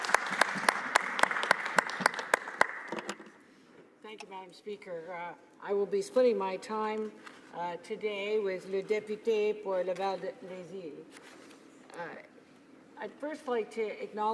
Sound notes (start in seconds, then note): 2.0 some Applause